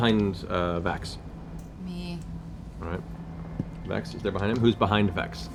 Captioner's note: none